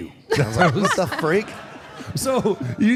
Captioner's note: Michelle laughs